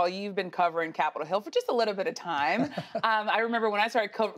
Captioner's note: laughing